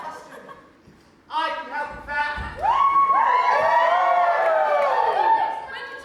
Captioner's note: audience cheers loudly